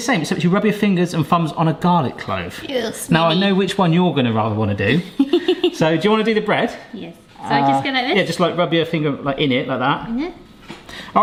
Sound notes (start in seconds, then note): 5.2 laughing